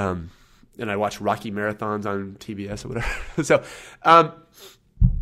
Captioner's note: laughs